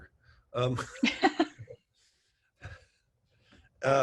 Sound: laughing

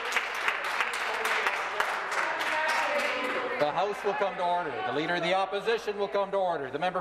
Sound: some Applause

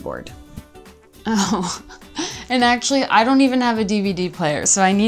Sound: laughs

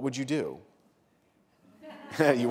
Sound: laughter

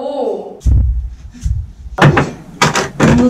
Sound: thump

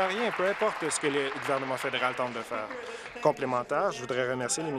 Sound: applause

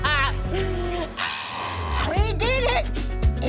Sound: maniacal laughter

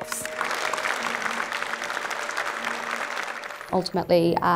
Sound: applause

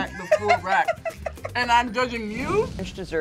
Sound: laughs

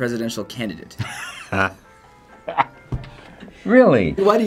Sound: laughs

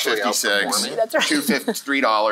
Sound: chuckles

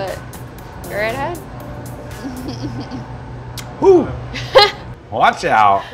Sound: laughs

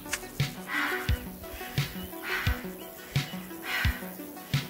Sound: footsteps plodding; user panting

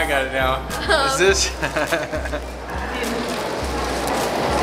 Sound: laughing

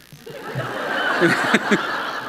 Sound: laughter

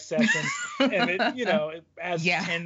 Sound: laughs

